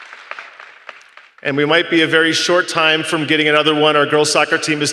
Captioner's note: applause